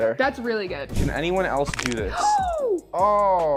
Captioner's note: bones crunching